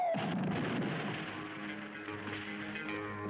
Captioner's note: rock crashing; dramatic music